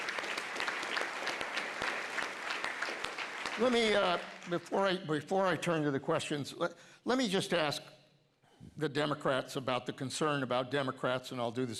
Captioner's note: applause